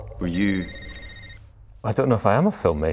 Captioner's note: phone rings